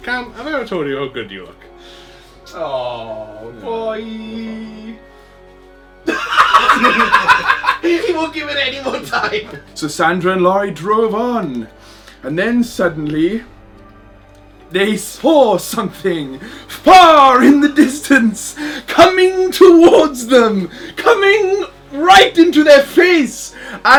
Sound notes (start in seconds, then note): 6.0 laughs